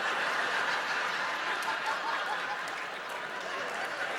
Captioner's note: laughter